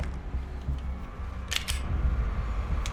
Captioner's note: cocking gun